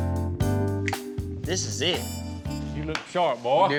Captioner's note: snaps fingers